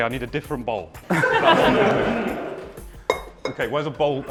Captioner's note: laughter